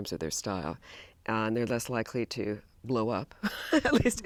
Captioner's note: laughs